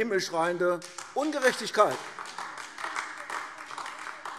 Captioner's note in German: Beifall AfD